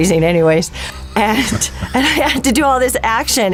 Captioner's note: chuckling